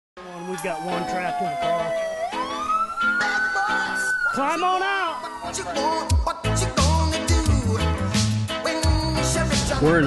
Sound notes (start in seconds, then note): 2.3 siren